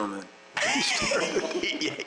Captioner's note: laughter